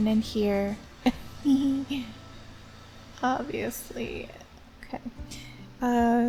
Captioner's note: goofy giggle